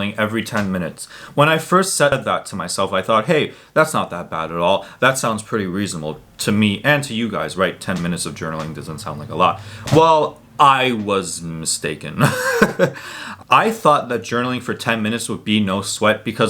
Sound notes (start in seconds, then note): 12.1 chuckles